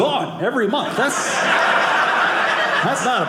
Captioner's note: audience laughing